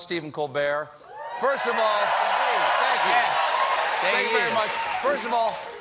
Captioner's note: cheers and applause